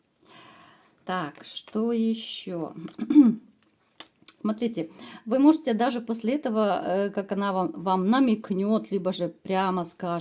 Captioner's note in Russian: откашливается